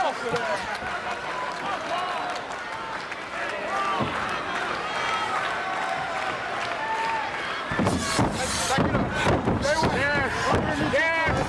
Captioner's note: applause